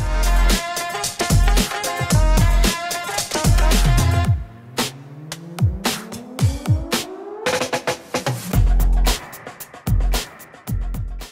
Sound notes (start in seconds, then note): 0.0 upbeat jazzy music; 4.2 sirens blaring; 7.8 upbeat rhythmic music